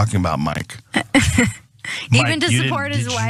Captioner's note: laugh